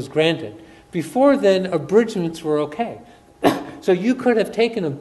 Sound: coughs

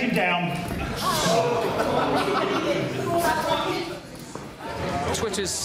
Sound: audience: oooh!

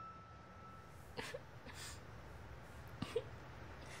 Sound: Dolly sobbing

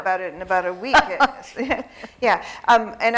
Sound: laughs

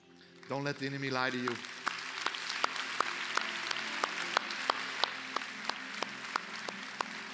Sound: applause

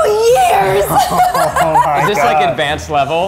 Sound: laughing

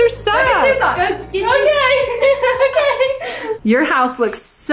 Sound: laughing

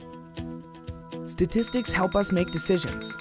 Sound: phone alarm rings

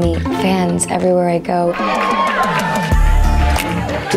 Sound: cheering

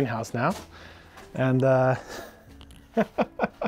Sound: laughs

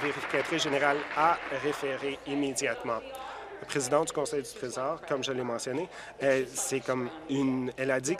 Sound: applause

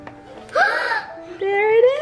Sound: gasps

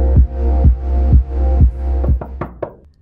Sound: knocking

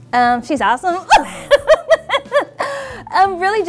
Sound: laughter

